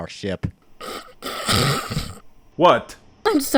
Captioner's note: amused Snort